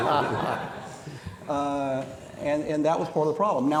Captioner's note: audience laughing